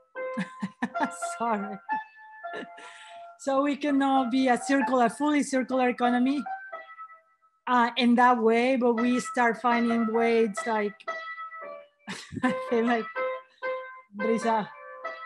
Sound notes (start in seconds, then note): 0.4 laughs; 11.0 piano playing; 12.1 laughs